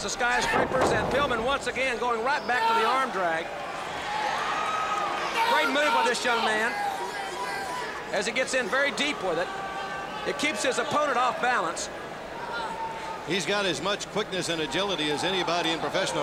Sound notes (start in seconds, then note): 3.0 crowd chatter; 4.2 crowd cheering